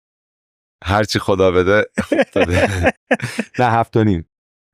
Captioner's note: laughs